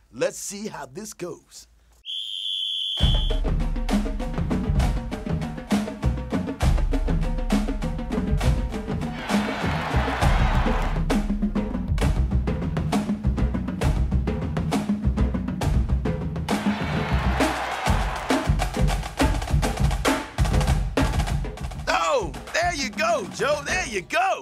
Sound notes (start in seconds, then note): 3.7 whistle; 6.4 drums; 9.1 cheering; 11.8 drums; 14.5 cheering; 17.2 drums